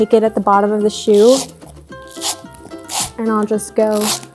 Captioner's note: brush scratches